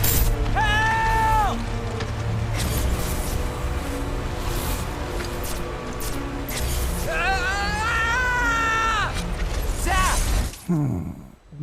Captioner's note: sigh